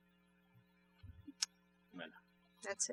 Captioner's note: speaking french